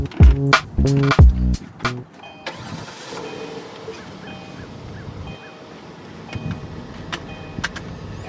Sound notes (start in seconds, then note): 2.4 car engine roaring